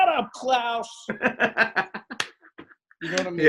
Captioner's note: laughs